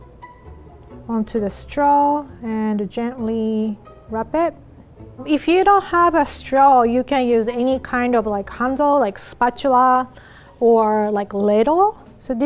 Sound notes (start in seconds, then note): none